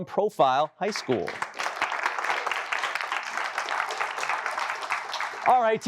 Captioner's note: applause